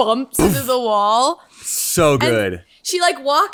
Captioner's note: imitates bumping sound